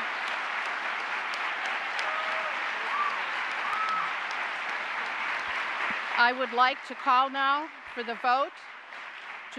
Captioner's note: applause